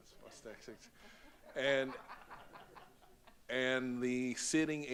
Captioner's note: audience laughs